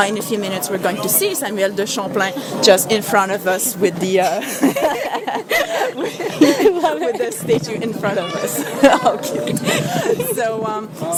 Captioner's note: laughing